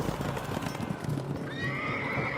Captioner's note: horse whinnies